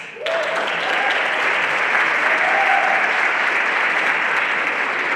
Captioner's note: everyone applauding